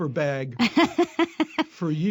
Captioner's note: laughter